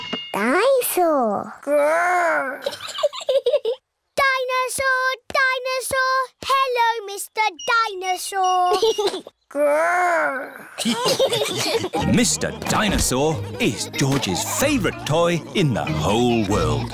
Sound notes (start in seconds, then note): 2.5 giggles; 10.5 giggles; 10.7 laughter